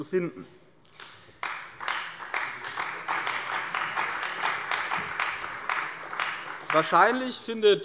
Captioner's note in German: Beifall bei der CDU